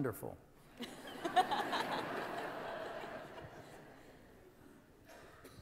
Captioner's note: laughter